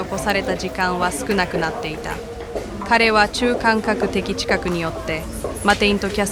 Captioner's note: speaker speaking in foreign language